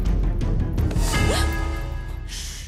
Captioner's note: Gasps